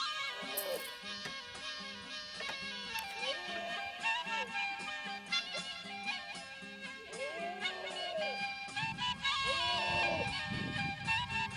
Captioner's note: goats and sheep bleating